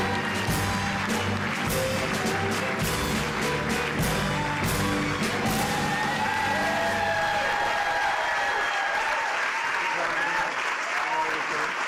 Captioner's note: cheers and applause